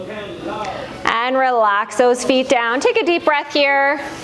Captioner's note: breath